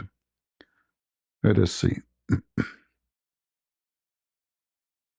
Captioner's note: berdehem